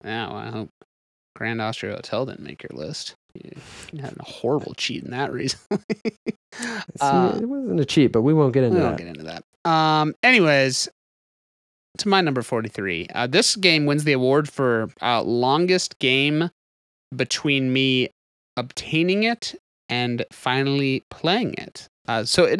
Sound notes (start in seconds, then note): 5.4 laughs